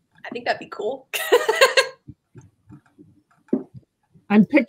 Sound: laughs

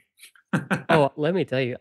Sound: laughter

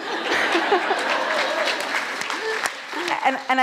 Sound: audience laughs, claps

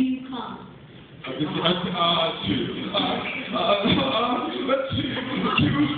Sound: uh...uh; laughter; uh...uh

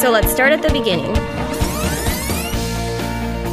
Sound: film rewind sound

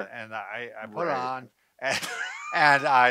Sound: laughs

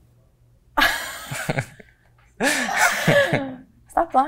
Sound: both nervously laugh

